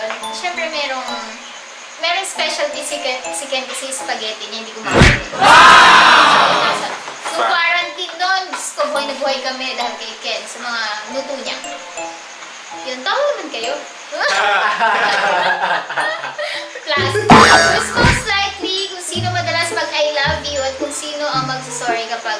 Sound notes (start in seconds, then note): 14.3 laughing Sarcastically